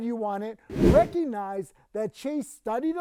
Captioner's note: wind whooshing